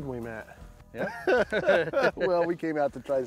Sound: laughs

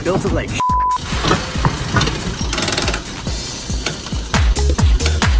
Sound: restraint clicking

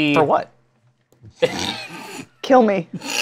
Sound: laughter

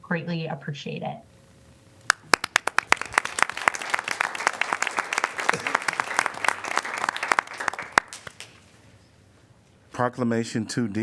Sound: applause

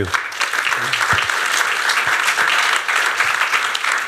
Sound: applause

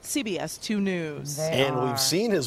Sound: crowd boos

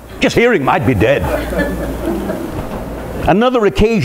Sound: laughter

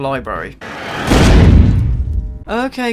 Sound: stock crash sound

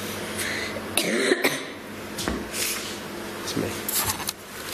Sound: coughs

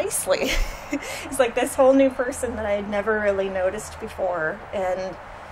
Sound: laughs

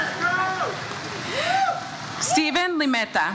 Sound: audience cheers

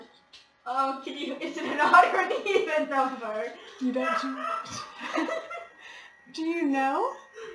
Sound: dying laughing in background

